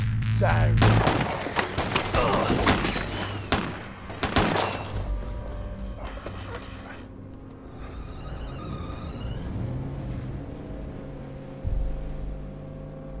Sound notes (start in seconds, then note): 0.8 gunshots; 5.9 tires screech